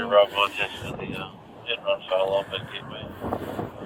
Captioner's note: radio chatter